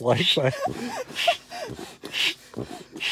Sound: laughing

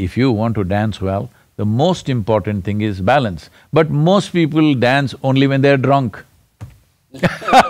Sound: laughter

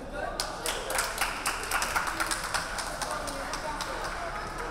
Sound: players clapping

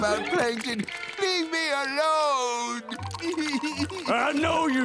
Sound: crying

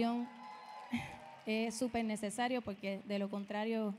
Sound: audience cheering

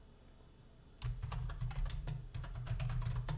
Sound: typing

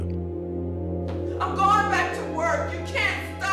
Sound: shouting

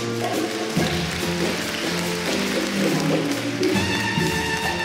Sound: audience applauds

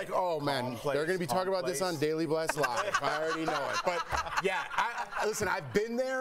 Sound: laughter

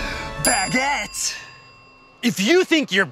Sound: bell dings

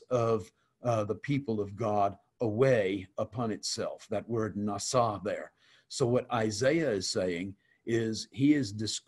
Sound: Hebrew

